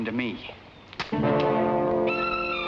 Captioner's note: mud thuds; dramatic orchestral music